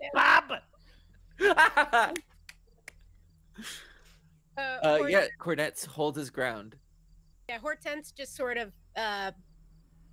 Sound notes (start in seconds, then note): 1.4 laughs and claps